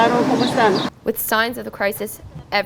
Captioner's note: woman speaking spanish